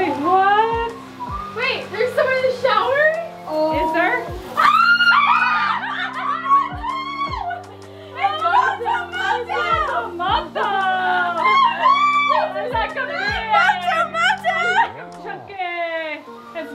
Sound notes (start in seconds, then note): 4.7 girls screaming and laughing; 11.4 laughing and squealing